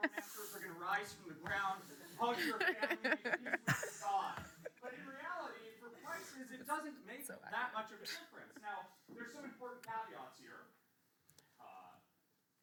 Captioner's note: laughs